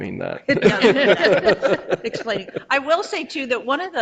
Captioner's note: all laughing